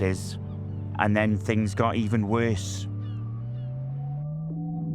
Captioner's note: seagulls caw